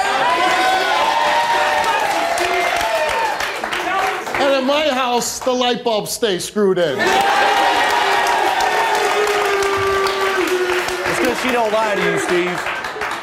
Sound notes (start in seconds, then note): 0.0 audience cheering; 6.9 audience cheering